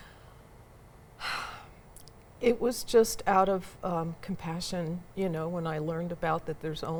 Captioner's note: sighs